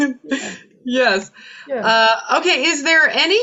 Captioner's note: laughs